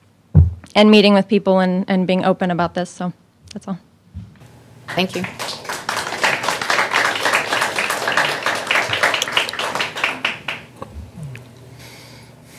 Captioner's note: applause